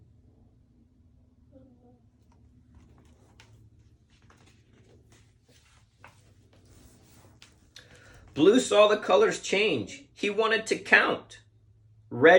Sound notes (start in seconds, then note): 4.7 page turning